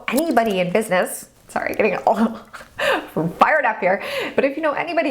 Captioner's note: laughs